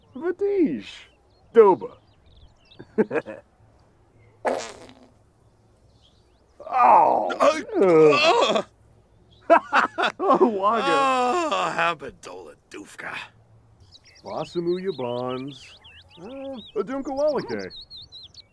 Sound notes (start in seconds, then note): 4.4 farts